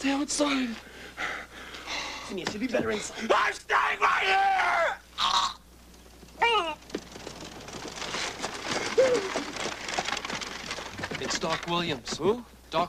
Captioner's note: screaming; laughs